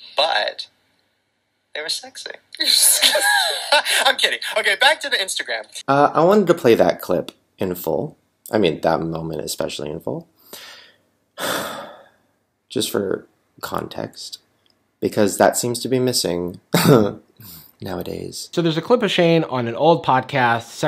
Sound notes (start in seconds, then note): 2.6 Podcast Shane & Lauren laugh; 11.4 Shane sighs; 17.3 laughs